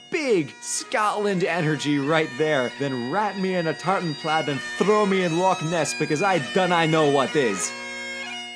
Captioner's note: Scottish accent begins